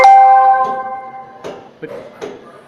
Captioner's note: unintended bell!